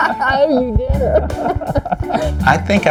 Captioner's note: laughs